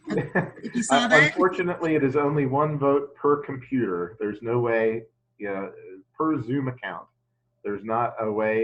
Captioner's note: chuckles